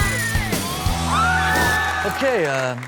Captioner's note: intro music; audience cheers